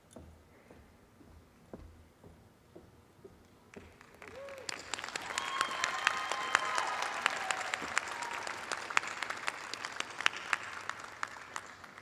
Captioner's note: cheers and applause